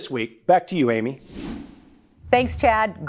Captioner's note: screen whooshes